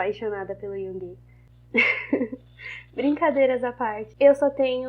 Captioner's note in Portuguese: Risos